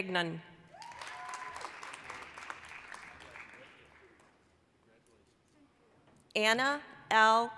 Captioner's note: applause, cheering